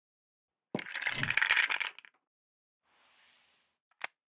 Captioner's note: logo rattling